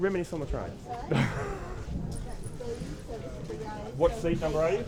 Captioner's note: laughs